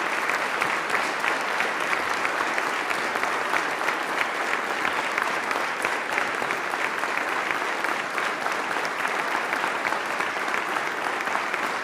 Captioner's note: applause